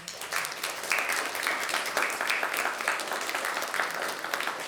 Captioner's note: audience clapping